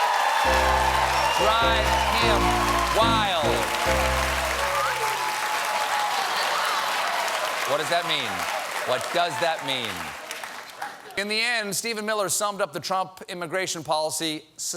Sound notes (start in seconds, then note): 0.0 applause